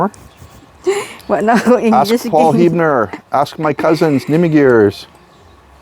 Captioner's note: laughs